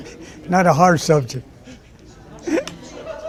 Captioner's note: laughs